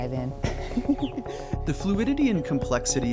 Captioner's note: laughs